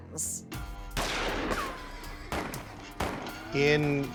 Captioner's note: gunshots